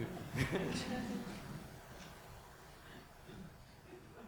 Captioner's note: audience laughs